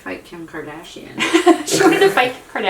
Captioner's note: laughing